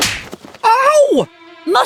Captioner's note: hard Smack!